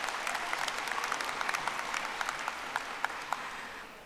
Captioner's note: audience applauding